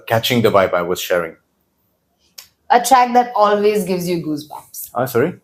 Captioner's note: smacks lips